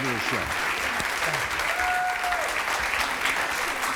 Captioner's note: applause